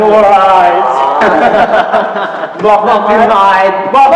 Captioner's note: boys laugh sneeringly